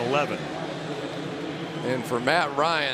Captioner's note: pa announcement